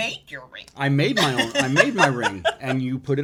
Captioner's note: laughing